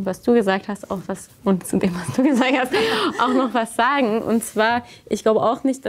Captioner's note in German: lacht